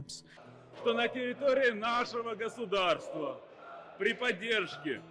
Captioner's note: speaking in foreign language